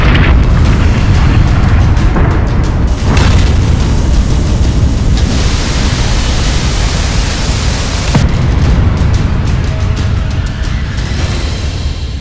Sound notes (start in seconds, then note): 0.1 explosions; 4.6 rushing water; 8.3 explosion